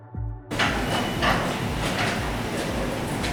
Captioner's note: door opening